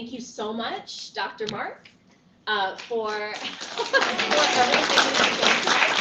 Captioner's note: applause; laughter